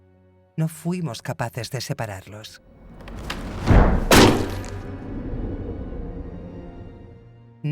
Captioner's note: boots thudding; somber music continues